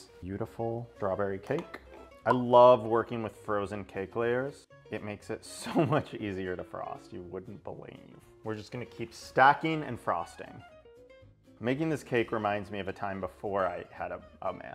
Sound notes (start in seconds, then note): 3.0 graphic pops